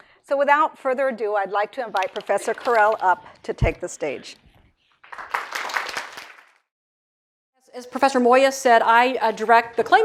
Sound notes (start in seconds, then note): 5.0 applause